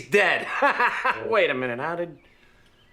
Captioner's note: laughing